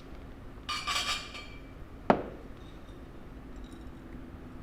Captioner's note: glasses clink